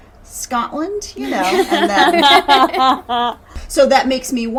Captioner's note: laughing